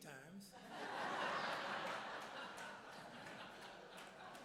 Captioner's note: audience laughs